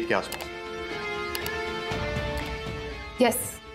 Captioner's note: Typing sound